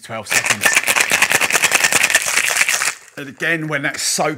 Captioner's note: shaking ice